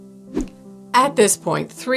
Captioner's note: air whooshing